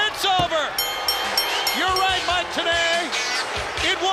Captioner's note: crowd cheering